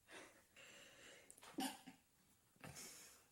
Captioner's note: sneezes